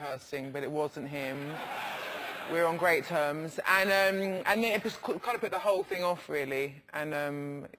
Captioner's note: laugh